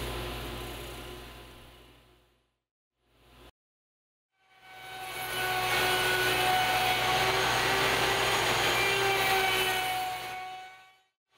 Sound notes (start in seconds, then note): 4.8 machine cutting